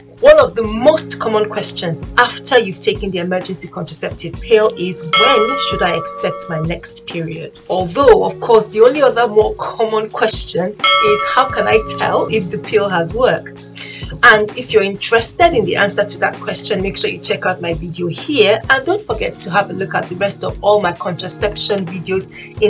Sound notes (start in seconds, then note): 5.1 bell dings